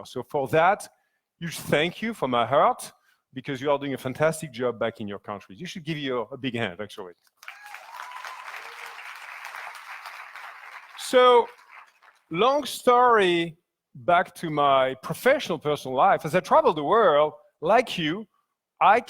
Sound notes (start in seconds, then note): 7.4 audience applauds; 7.4 audience cheers